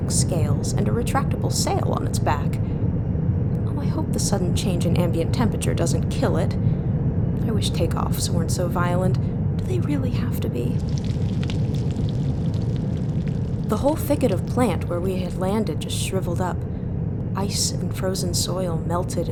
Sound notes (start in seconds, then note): 10.7 SFX: sound of plants shriveling. Think the way spinach sounds when sautéed